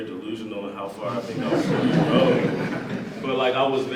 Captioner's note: audience laughs